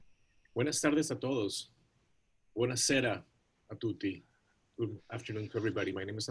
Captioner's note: non-english speech